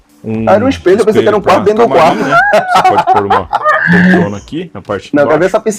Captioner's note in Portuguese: risadas